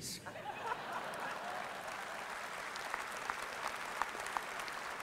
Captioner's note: audience applause